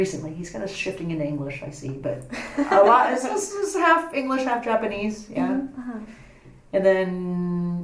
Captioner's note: laughs